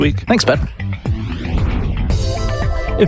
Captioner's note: air whooshing